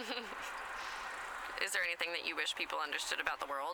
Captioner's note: giggles